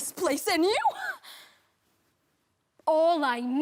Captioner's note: heavy breathing